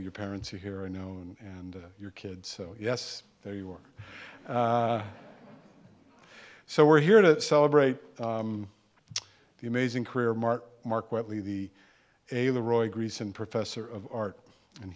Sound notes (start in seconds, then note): 4.4 audience laughing